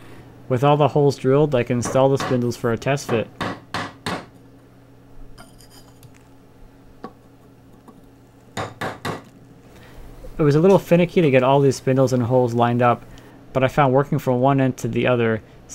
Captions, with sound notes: With all the holes drilled, I can install the spindles for a test fit. (pounding) It was a little finicky to get all these spindles and holes lined up, but I found working from one end to the other